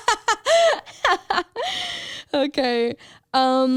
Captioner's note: laughs